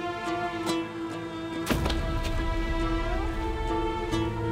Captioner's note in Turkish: Düşme sesi